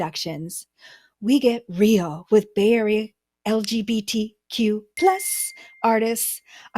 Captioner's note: ding sound effect